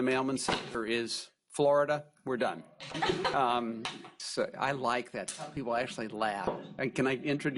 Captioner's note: laughing